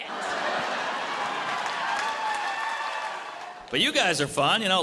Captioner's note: audience cheers and applauds